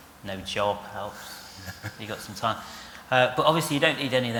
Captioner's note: laughs